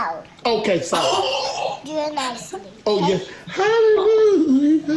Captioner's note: gasps